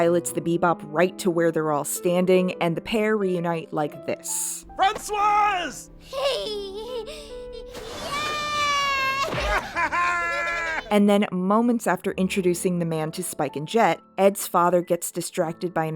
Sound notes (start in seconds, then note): 6.1 Ed laughs; 9.1 more laughter